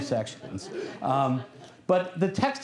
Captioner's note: laughter